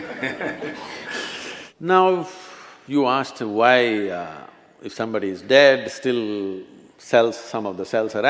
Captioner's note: few Laugh